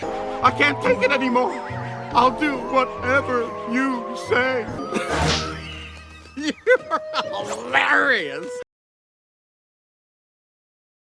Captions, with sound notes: "I can't take it any more! I'll do whatever you say!" (laughs) "You're hilarious!"